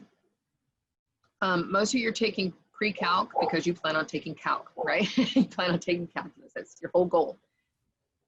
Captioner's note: laughter